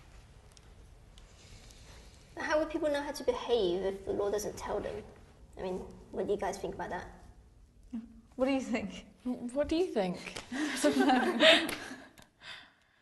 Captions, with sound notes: >> How will people know how to behave if the law doesn't tell them? I mean, what do you guys think about that? >> What do you think? >> What do you think? [LAUGH]